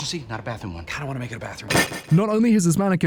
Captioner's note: angry Boyle table slam